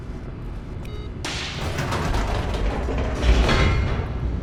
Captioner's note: elevator closes